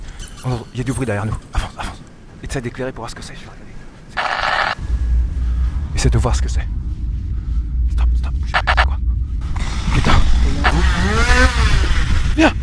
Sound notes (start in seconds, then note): 4.1 tape sounds; 10.6 chainsaw Noise